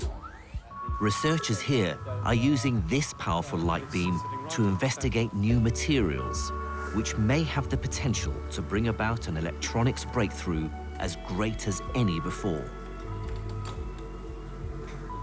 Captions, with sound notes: - [Voiceover] Researchers here are using this powerful light beam to investigate new materials, which may have the potential to bring about an electronics breakthrough as great as any before.